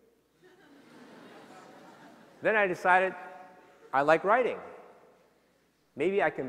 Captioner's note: laughter